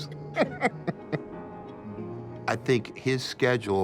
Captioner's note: laughs